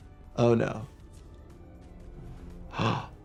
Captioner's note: suspenseful music; gasps